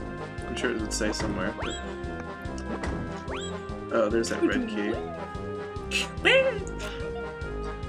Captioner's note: noises imitating kicking open a walnut